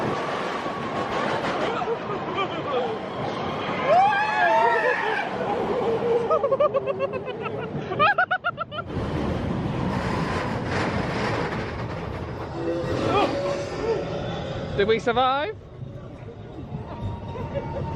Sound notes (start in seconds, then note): 3.8 scream; 6.2 laughs; 10.0 rollercoaster rumbles